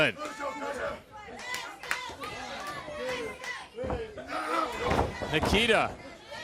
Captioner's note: crowd chatter